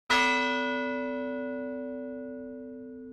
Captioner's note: bell tolls